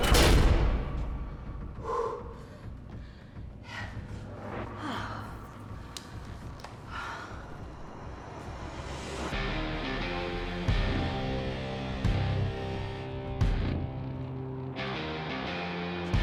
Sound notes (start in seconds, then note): 1.7 exhales; 4.6 sighs